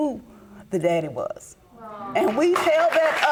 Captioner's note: audience applauding